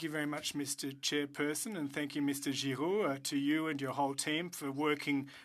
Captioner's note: speaking French